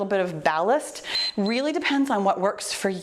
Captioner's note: timer beeps